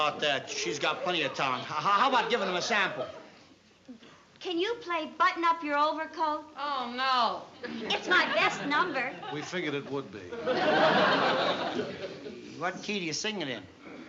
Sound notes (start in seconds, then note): 10.2 laughter